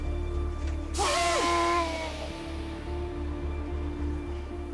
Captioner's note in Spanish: Quejidos